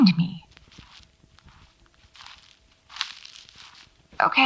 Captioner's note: footsteps